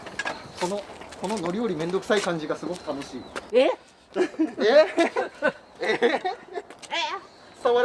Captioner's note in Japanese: 笑い